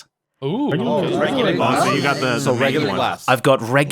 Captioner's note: chatter